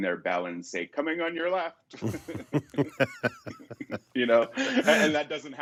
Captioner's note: laughs